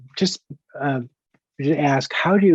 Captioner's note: murmurs